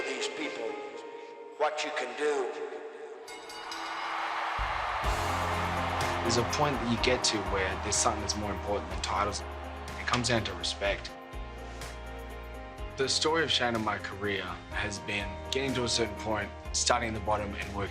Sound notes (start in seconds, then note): 3.2 bell ringing